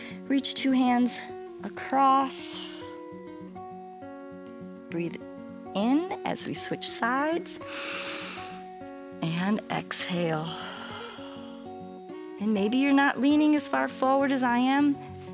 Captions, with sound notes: Reach two hands across, breathe in as we switch sides [inhales] and exhale, [exhales] and maybe you're not leaning as far forward as I am.